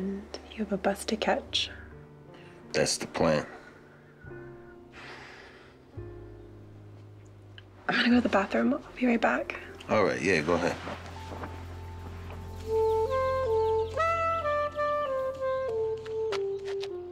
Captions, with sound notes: - And you have a bus to catch. - That's the plan. - I'm gonna go to the bathroom, I'll be right back. - All right, yeah, go ahead. (romantic music) (birds chirp)